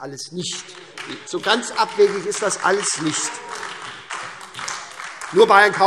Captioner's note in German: Vereinzelter Beifall SPD - Demonstrativer Beifall AfD - Zurufe